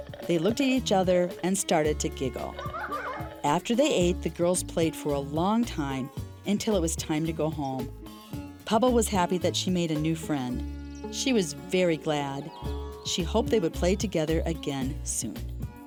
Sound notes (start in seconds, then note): 2.6 Pubble and Jerika giggling